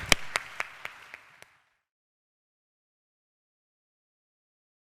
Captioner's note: audience applauds